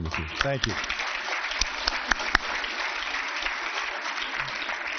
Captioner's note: applause